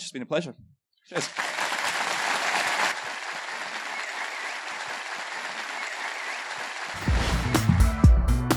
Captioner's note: applause